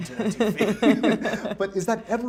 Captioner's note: laughs